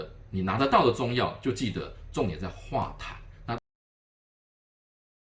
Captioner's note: phlegm